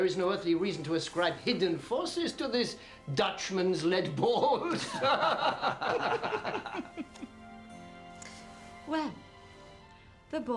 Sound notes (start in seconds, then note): 4.6 men laughing